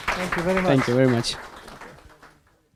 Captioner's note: audience applause